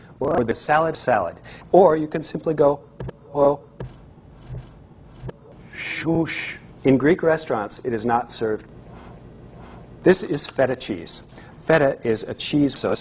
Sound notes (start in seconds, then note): 2.9 hit; 4.2 reversed hits